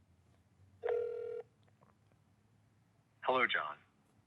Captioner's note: phone beeping